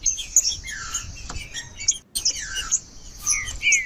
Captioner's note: trinca ferro cantando